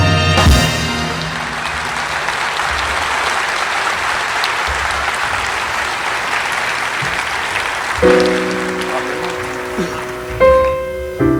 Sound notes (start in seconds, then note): 1.5 audience applauding; 7.9 relaxing piano music